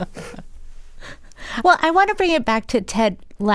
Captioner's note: laughter